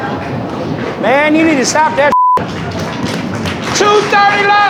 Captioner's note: beep